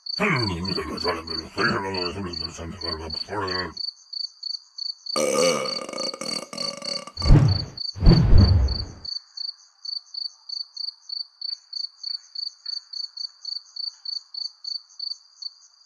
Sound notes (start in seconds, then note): 0.1 mumbling and grumbling; 5.1 burp!